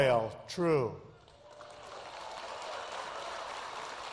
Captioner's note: applause